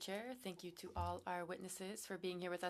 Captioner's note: speaking french